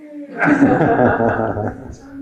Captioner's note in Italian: risate